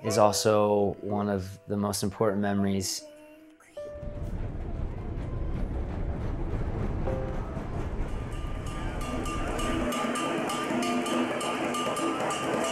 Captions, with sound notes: is also one of the most important memories. (engine revving) (bell ringing)